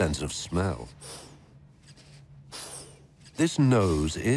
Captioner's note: sniffing